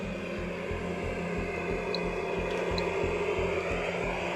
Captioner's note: static buzzing